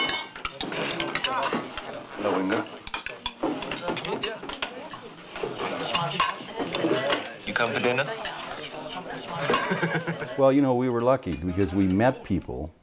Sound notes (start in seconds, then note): 2.8 dishing clanging; 6.8 dishes clanging